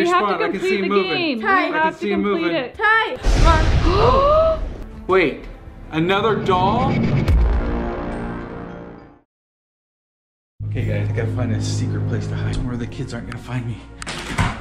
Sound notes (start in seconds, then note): 3.9 gasps; 7.1 thrill music